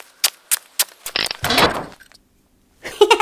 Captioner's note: footsteps; door opens then slams